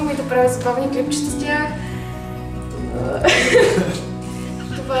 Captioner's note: shows her phone to the others, laughter